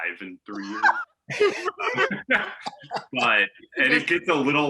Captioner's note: all laughing